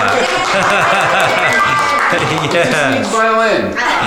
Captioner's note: clapping